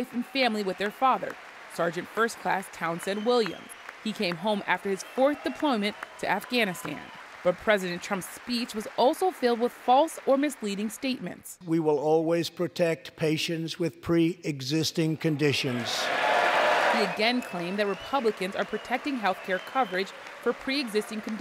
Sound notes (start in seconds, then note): 15.3 cheering and applause